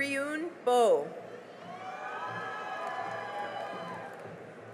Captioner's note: cheering and applause